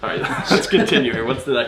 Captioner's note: laughs